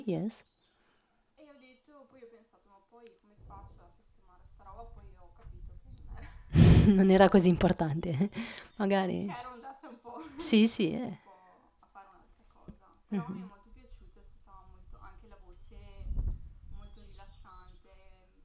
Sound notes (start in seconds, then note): 0.0 Italian speaking; 6.5 Italian speaking